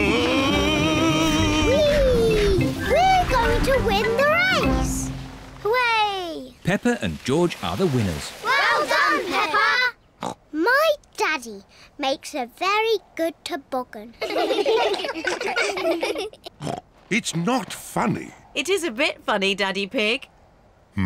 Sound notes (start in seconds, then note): 10.6 snorts; 14.2 all laugh; 16.6 snorts